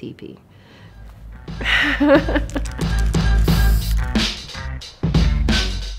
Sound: laughter

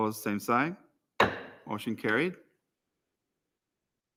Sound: gavel raps

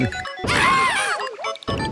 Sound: Mario screams

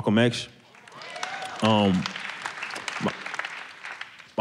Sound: clapping

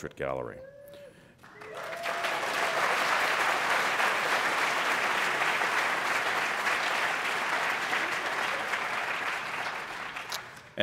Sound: applause

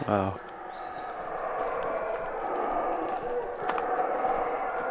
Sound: monkey roar

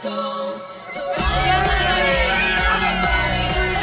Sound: crowd cheering

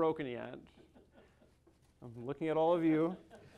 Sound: crowd laughing

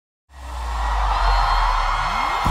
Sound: aplausos

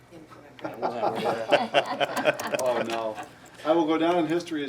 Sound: some Board members laughing

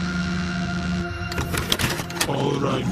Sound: VHS tape being put in

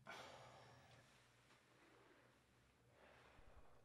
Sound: sighing

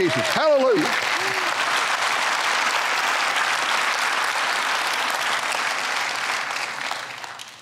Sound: clapping

